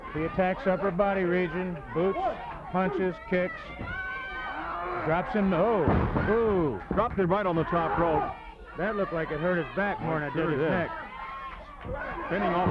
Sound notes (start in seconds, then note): 5.7 body thudding